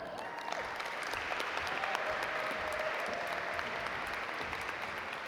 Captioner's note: audience applaud